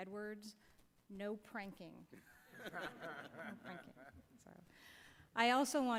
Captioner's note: laughter